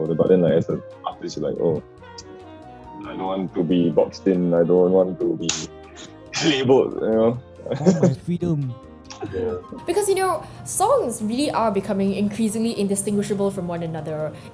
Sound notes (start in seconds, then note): 7.6 laughs